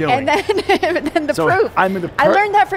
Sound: laughing

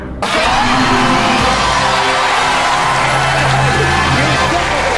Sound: crowd cheering

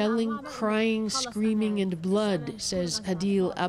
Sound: speaking alternate language

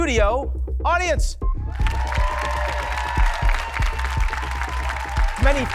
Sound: audience cheers

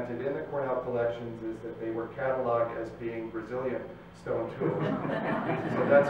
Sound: laughter

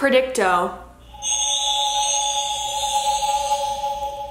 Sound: whirring

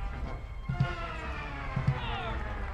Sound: audience applauding

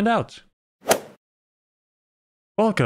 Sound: golf ball hit sound

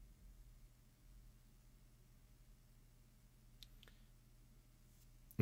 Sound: mouse clicking

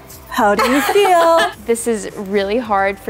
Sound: laughs loudly

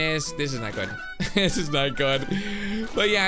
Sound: laughs

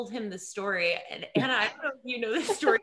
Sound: laughing

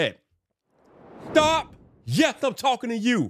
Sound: screen whooshes

